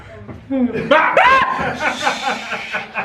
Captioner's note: screams